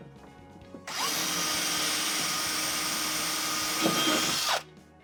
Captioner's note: drill whining